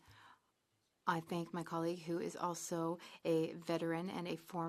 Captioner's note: speaking French